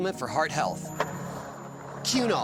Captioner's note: skateboard wheels roaring